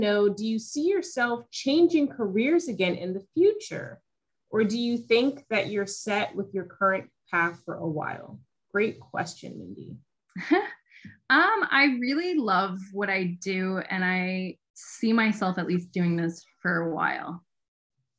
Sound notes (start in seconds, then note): 10.3 chuckling